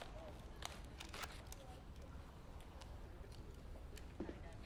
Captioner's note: holster clicks